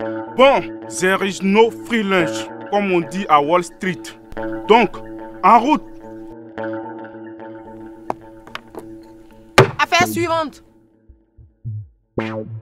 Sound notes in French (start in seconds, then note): 9.6 coup de marteau